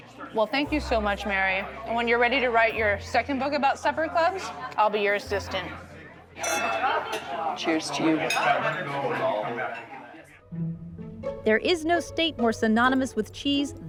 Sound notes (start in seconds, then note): 6.4 clink; 10.5 whimsical tune plays